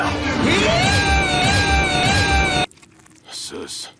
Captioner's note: laser sounds